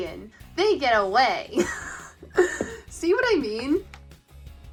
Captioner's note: laughs